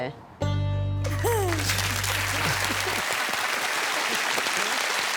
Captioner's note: applause